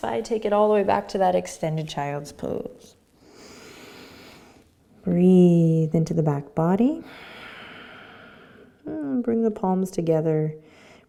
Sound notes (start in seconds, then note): 3.3 inhaling; 7.0 exhaling